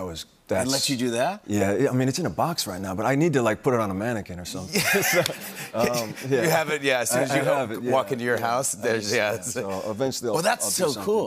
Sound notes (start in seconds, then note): 4.7 laughter